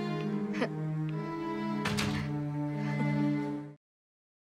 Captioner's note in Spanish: Ruido al cerrar la puerta